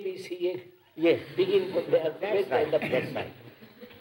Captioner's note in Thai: เสียงหัวเราะ